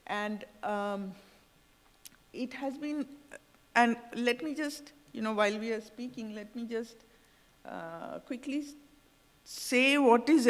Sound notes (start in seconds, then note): none